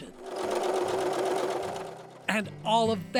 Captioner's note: sewing machine whirring